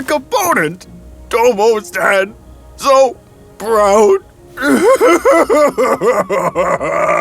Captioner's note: sobbing